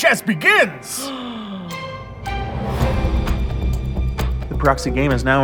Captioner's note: gasps